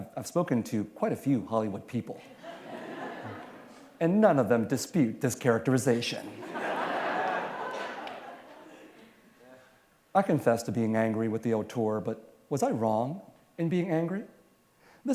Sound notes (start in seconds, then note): 6.3 laughter